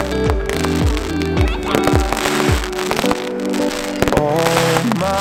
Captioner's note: fireworks exploding